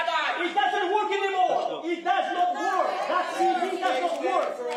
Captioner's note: shouting